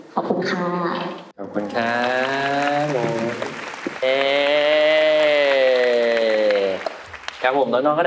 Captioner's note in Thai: ปรบมือ